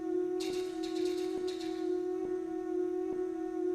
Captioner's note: tapping